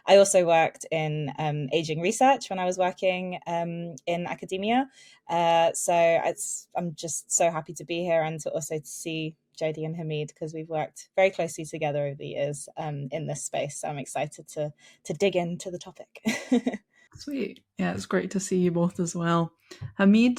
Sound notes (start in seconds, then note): 16.3 chuckles